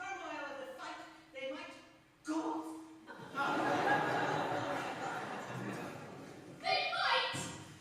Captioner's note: laughter